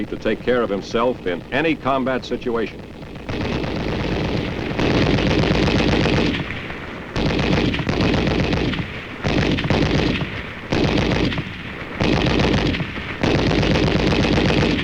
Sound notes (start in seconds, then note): 4.2 gunshots booming